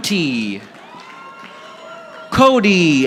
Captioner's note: audience applauding